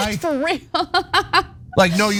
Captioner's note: laugh